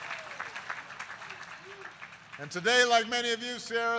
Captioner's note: applause